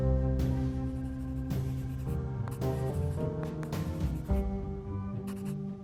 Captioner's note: pencil scritching